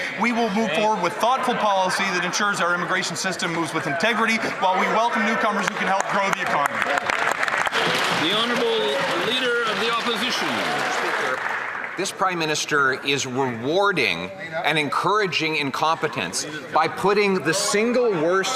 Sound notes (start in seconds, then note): 11.7 some Applause